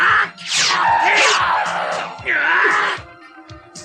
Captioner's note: SFX: sword slashes; SFX: sword strokes